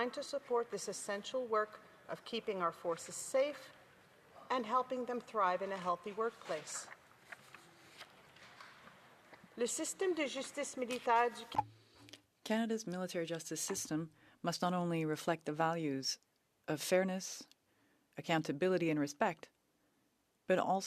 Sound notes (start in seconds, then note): 13.9 speaking French